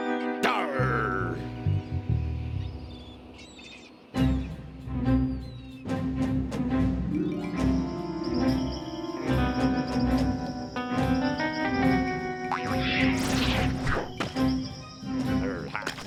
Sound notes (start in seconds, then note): 12.5 legs boing